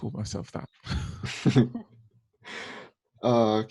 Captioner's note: laughs